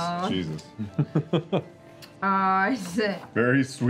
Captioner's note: laughs